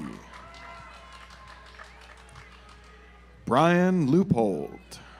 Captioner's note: audience applauds